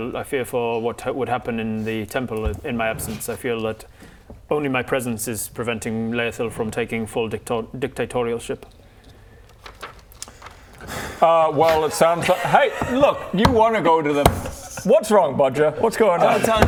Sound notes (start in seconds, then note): 10.8 too much effort sigh